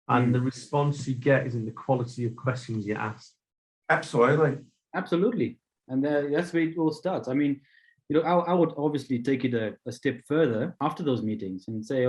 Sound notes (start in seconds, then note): none